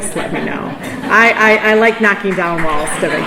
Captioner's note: laughter